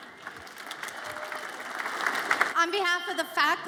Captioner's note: audience applauds